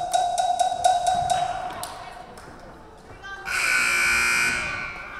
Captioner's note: buzzer buzzing